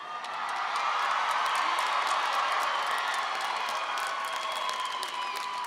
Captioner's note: audience applauding and cheering